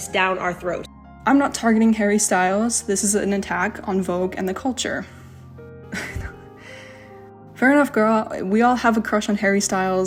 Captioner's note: laughs